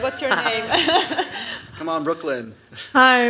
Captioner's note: laughter